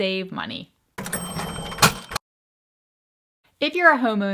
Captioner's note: cash register dings